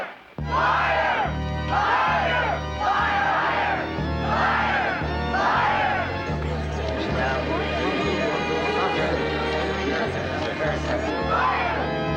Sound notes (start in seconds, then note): 5.3 chatter